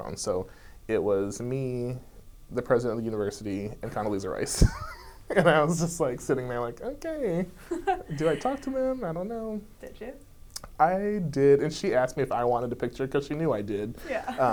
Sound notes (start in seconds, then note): 5.1 laughs; 7.6 laughs